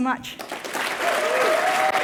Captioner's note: cheers and applause